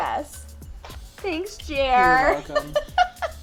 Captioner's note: laughs